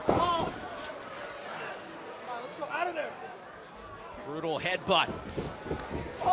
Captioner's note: crowd chatter